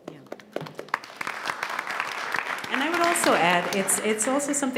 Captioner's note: audience applauds